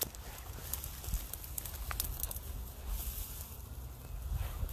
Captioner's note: grass rattling